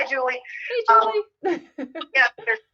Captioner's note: chuckles